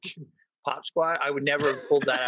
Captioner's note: all laugh